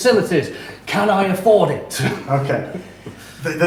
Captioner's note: chuckles